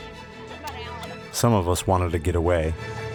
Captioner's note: voiceover